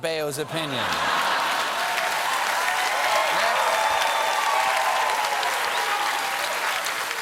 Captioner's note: cheering and applause